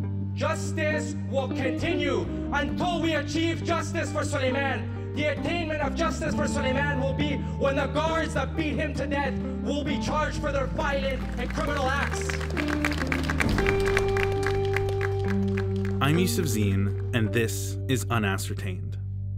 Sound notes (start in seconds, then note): 10.8 crowd applauding